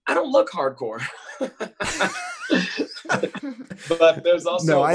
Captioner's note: all laugh